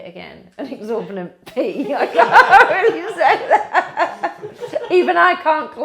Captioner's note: laughs heartily